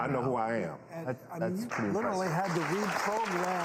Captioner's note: audience applause